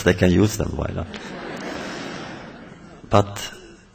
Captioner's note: laughter